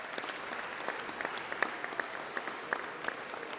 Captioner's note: applause